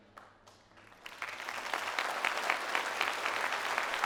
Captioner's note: applause